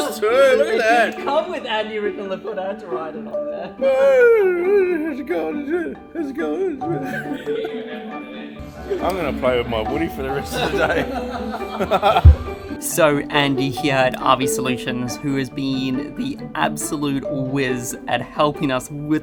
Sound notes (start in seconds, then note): 3.8 Woody whimpering; 10.5 distant laughing